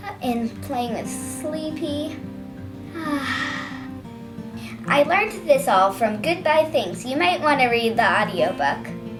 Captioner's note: sigh